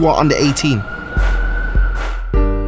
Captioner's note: sirens